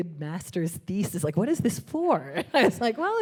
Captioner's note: chuckling